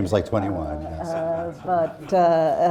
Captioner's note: laughter